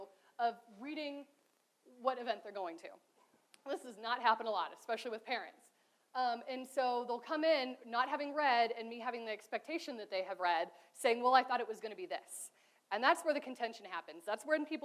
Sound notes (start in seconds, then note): none